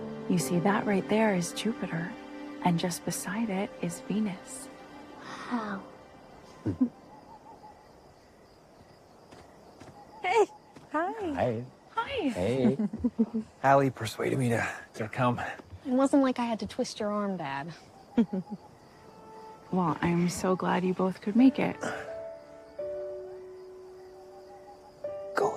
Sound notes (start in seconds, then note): 9.2 footsteps approaching